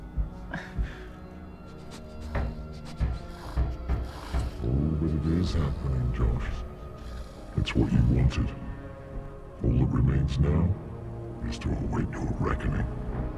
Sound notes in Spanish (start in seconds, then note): 0.2 Golpeando la pared; 4.6 Con voz profunda